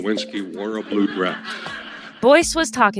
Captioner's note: laugh